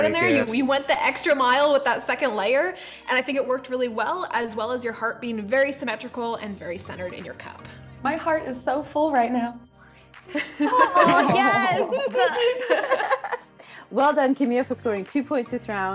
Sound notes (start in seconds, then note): 10.3 hearty chuckles